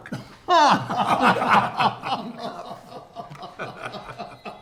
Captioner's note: laughing